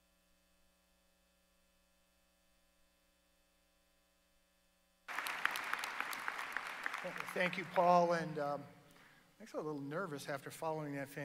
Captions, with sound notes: VIDEO. [APPLAUSE] - THANK YOU, PAUL AND ACTUALLY I'M A LITTLE NERVOUS AFTER